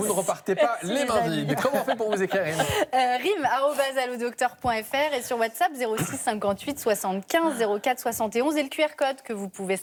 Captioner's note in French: rires